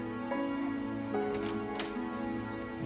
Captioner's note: door opens